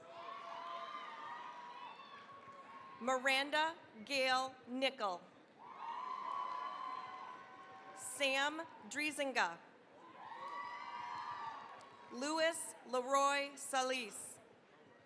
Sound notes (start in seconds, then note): 0.0 cheering, applause; 5.6 cheering, applause; 10.0 cheering, applause